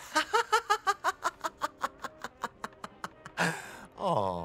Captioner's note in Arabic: يضحك